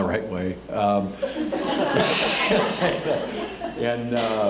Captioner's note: all laughing